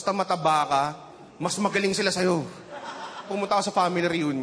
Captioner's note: chuckling